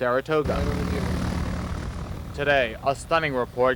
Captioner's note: airplane rotors whirring